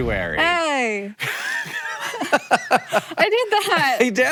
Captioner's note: Hank laughs; Maya chuckles